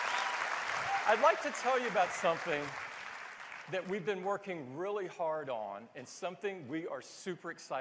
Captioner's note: cheers and applause